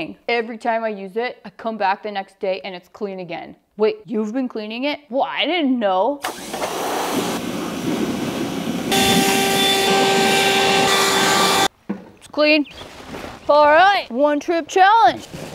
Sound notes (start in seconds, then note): 6.2 power washer whirs; 8.6 leaf blower buzzes